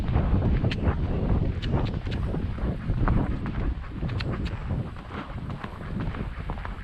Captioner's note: more tongue clicking